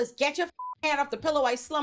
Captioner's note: beep